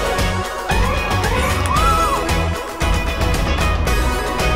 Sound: screams

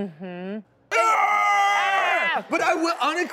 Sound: screaming

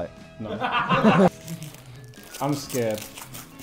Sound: Sidemen laughing

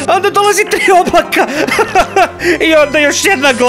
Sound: groans

